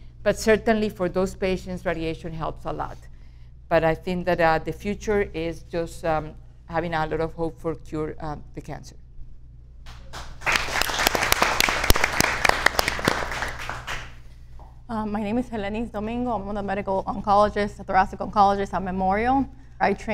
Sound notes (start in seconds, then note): 9.9 audience applauds